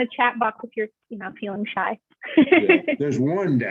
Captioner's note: laughs